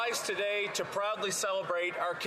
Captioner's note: some Applause